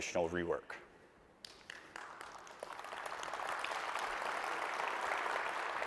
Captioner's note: audience applauding